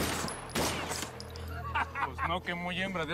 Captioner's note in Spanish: risas